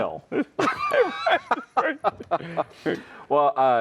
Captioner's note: both laughing